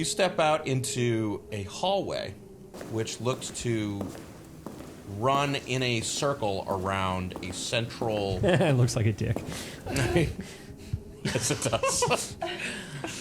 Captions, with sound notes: step out into a hallway, which looks to run in a circle around a central-- - It looks like a dick. (laughing) - Yes it does.